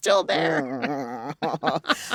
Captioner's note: laughter